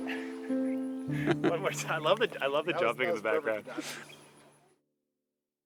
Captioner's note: laughs